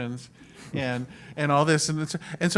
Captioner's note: laugh